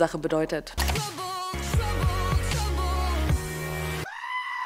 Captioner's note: goat screams